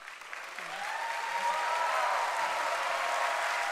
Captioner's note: cheering and applause